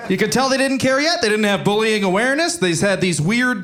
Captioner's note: audience laughing